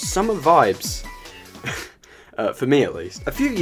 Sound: laughs

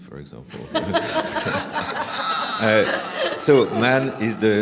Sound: laughter

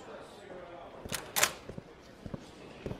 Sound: door opens

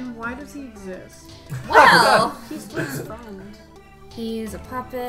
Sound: laughing

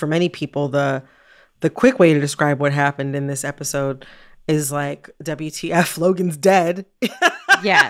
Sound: laughter

